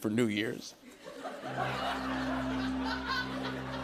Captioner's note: laughter